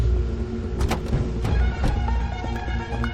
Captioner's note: car doors closing